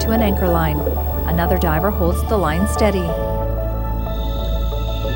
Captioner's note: scuba gear hissing